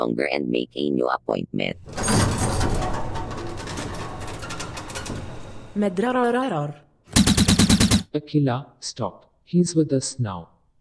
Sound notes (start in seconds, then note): 7.1 gunshots